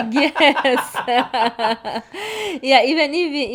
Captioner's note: both laughing